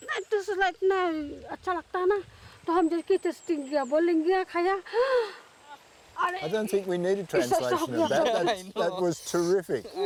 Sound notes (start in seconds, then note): 4.8 gasps; 7.5 laughing